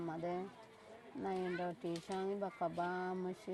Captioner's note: speaking burmese